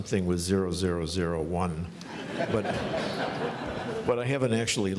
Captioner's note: laughing